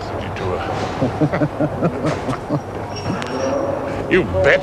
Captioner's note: both laughing